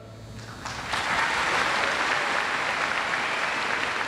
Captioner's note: audience applauds